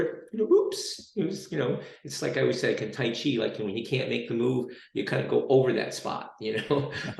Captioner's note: chuckles